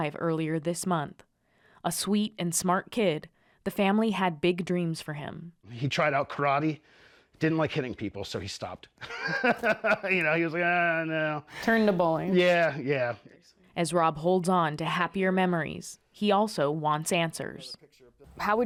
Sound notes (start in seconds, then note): 9.0 laughter